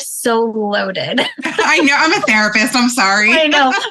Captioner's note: laughs